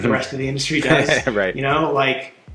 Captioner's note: laughing